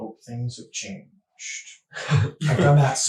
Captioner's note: laughing